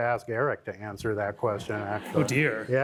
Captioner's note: laughter